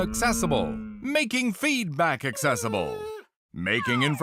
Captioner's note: dog whine